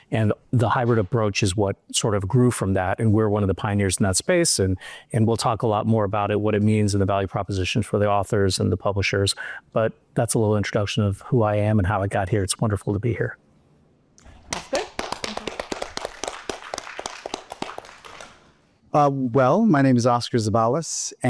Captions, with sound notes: and the hybrid approach is what, sort of, grew from that. And we're one of the pioneers in that space, and we'll talk a lot more about it, what it means in the value proposition for the authors and the publisher. But that's a little introduction of who I am and how I got here. It's wonderful to be here. - That's good. (audience applauds) - Well, my name is Oscar Zeballos.